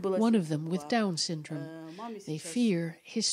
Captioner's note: speaking Foreign Language